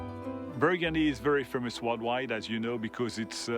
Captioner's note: peaceful harp music; with French accent